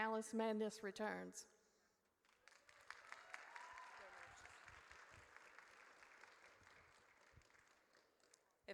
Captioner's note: audience cheers